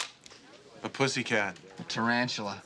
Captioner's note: none